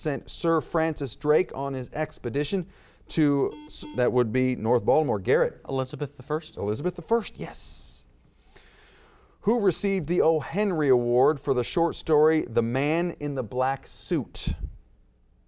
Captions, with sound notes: sent Sir Francis Drake on his expedition to-- (buzzer beeps) That would be North Baltimore, Garrett. - Elizabeth I. - Elizabeth I, yes. Who received the O. Henry Award for the short story The Man in the Black Suit?